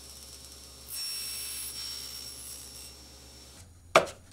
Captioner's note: saw trills